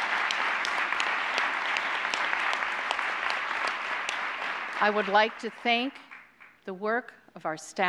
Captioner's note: applause